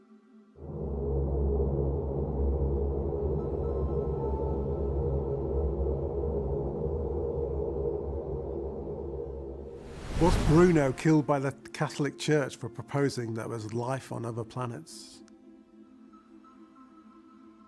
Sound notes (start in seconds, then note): 0.8 ominous music; 9.7 wind whooshing